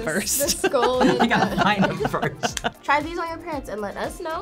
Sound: laughs; chuckles; claps

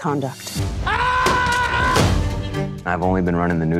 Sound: screaming

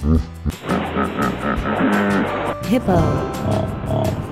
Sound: hippo sound

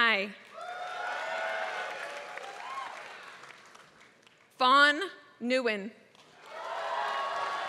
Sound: applause; applause

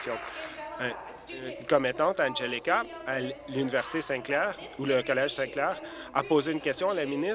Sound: applause

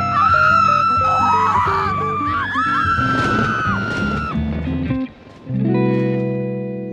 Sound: screaming

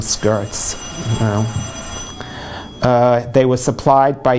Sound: phone rings

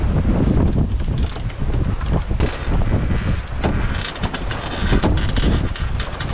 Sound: winch sounds

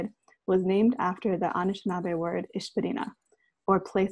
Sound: in foreign language

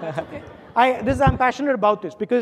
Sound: audience laughing

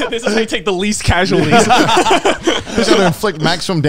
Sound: all laughing

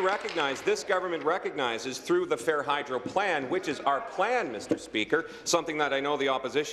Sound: applause

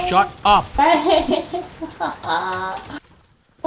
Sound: laughing

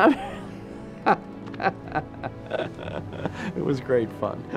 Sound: laughs

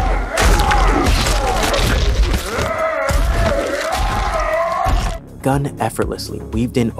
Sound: whoop

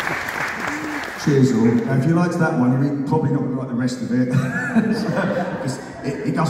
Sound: appaluse; laughs

